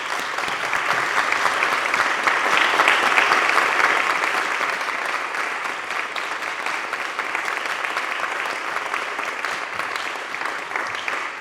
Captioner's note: applause